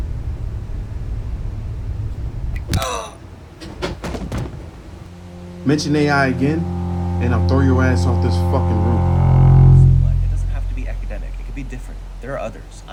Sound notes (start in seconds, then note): 2.6 punch